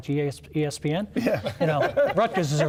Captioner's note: panelists laughing